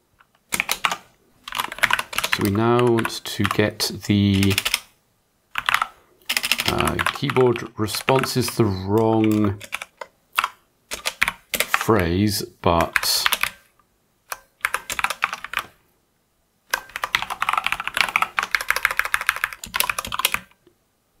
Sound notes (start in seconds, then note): 0.0 typing; 14.3 typing